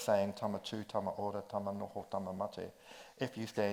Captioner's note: speaks in foreign language